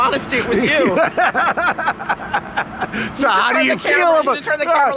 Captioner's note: laughs